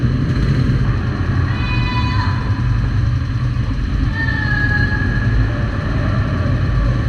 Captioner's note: screaming for help LOL